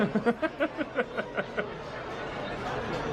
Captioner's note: laughs